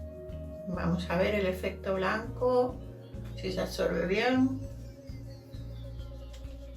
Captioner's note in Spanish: none